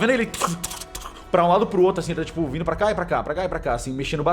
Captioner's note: moving noises